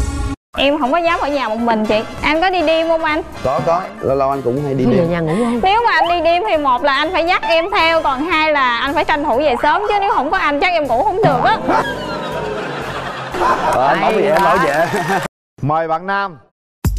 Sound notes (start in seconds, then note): 11.2 audience laugh